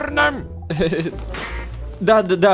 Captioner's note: goose rustling